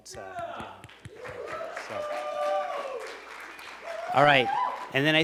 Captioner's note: applause